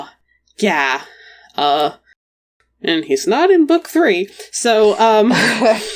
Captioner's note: laughs